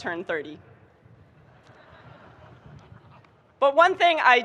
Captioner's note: audience chuckling